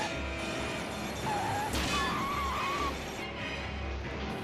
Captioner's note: tires screeching